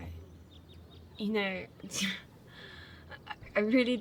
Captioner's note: laughs